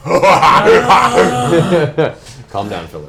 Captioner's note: loud maniacal laughter